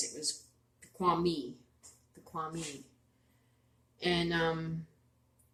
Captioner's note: speaking Abenaki